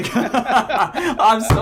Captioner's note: laughing together